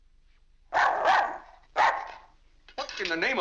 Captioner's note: dog barks